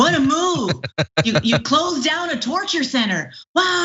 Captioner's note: laugh